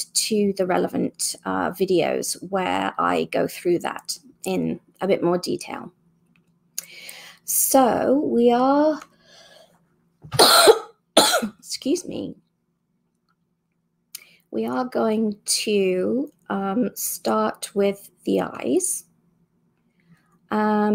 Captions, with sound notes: to the relevant videos where I go through that in a bit more detail So we are, *cough*, excuse me, we are going to start with the eyes